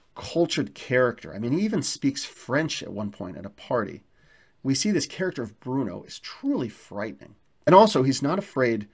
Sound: he speaks French at one party

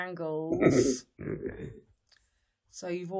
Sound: laughs

